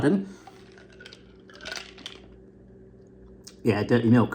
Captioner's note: ice clinking